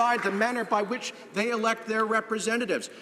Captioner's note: some Applause